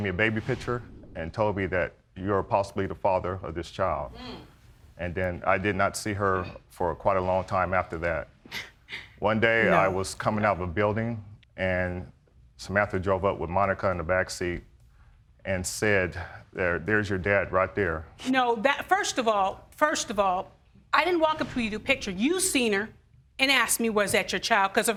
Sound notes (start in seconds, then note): 7.7 snickers